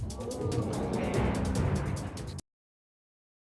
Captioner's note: audience gasping